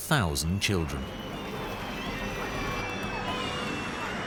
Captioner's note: children screaming